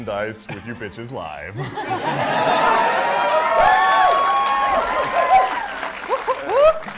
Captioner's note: cheering